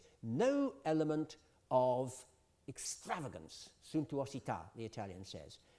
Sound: italian

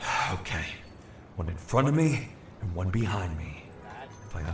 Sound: deep breath

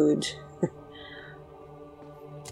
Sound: scoffs

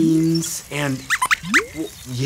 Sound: squeaks squeaks

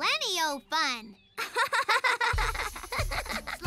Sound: both chuckle

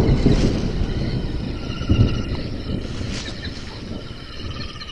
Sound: insects buzzing

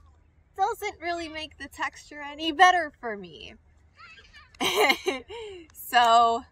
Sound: laughs

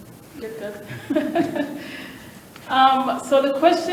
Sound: chuckling

